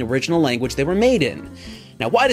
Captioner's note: breathe in